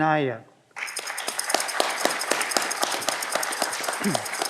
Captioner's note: audience clapping